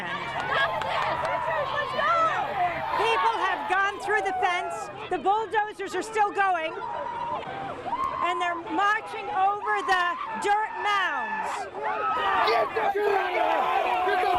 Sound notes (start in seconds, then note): 0.1 grup bağırıyor ve tezahürat yapıyor; 6.8 insanlar çığlık atıyor; 11.9 yüksek sesle kızgın çığlıklar